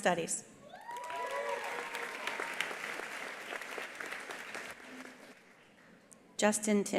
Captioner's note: attendees cheering; attendees applauding